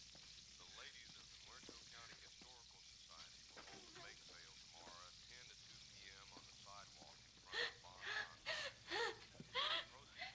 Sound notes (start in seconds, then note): 7.5 Sally crying and gasping